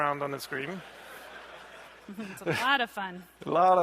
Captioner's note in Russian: смех